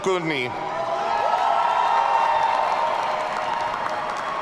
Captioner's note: audience cheering